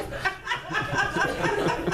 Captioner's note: laughter